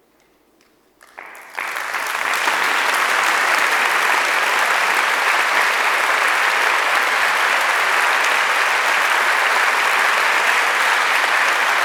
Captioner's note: applause from the public